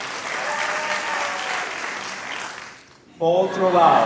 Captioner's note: applause